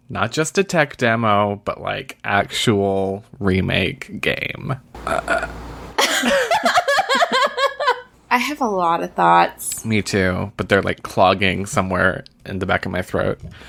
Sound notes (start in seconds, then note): 4.9 chokes; 4.9 laughs